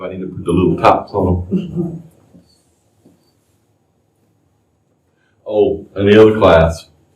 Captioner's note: laughter